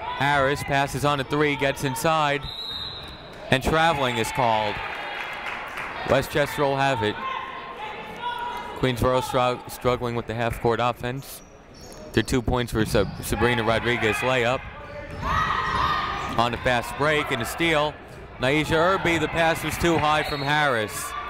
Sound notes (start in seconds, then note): 2.4 whistle tweeting